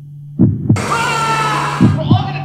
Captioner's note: scream